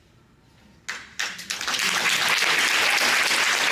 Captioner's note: applause